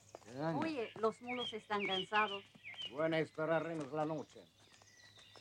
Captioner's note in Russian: говорят по-испански